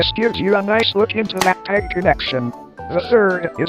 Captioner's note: plastic clack